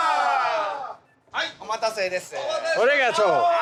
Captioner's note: speaking Japanese